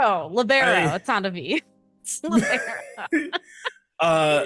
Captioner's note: deep sigh